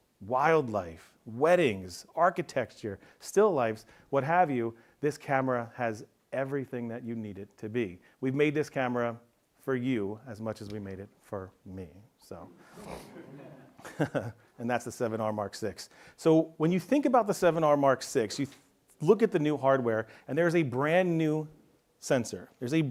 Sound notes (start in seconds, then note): 12.6 laughs; 12.6 audience members laugh